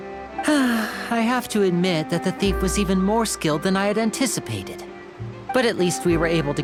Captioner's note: sigh